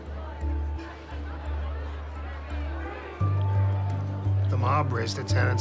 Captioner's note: people talking in background